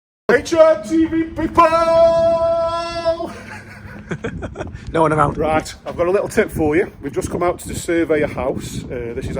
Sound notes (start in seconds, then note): 3.2 laughter